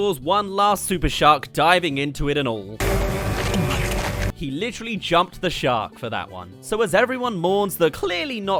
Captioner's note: gulp